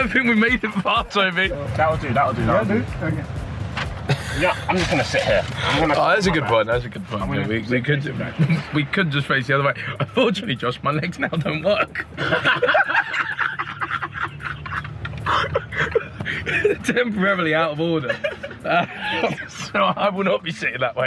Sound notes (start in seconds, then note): 12.2 men laughing